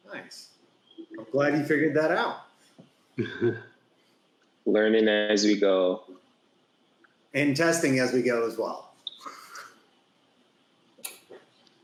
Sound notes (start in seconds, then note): 3.2 chuckles